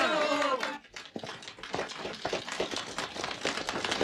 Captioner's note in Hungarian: csendesebb taps